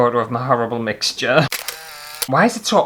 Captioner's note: camera Click